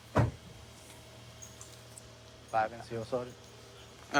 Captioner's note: none